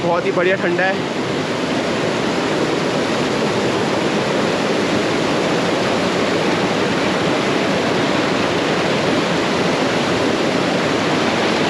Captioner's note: water cascading